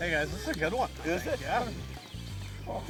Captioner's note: voiceover